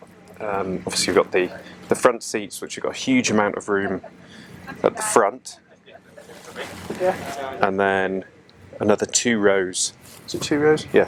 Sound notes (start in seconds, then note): 5.4 background chatter